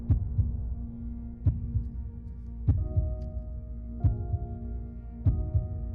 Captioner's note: heartbeat continues thumping